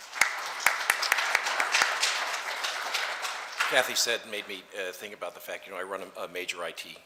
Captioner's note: clapping